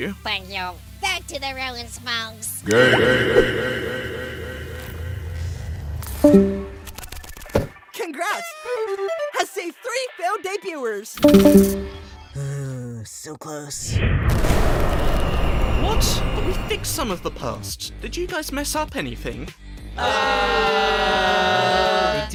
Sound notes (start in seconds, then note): 12.4 sigh